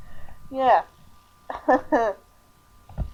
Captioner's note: more awkward laughter